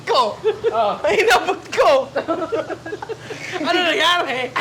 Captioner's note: laughter; laughter